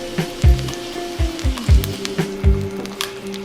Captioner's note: oil sizzling; calming music